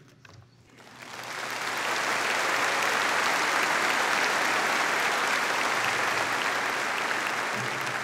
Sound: applauding

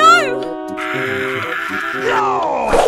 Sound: still screaming

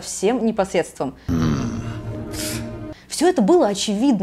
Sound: harrumphs in English

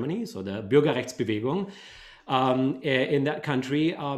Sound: speaking german

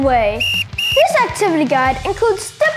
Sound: whistle tweets

